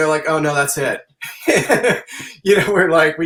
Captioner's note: laughing